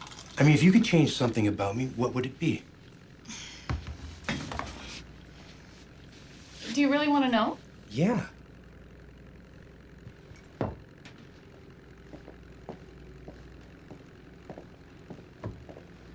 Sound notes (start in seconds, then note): 3.2 sighs